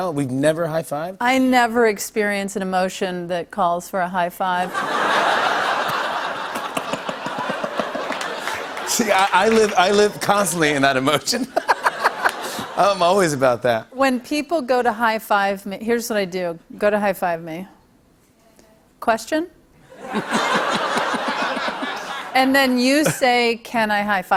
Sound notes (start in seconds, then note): 4.6 laughter; 11.3 laughter; 19.9 laughter